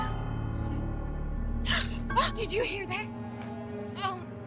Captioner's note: gasps